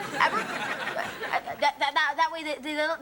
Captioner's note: audience laughing